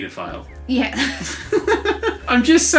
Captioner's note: laughter